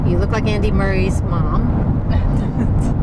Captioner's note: laughter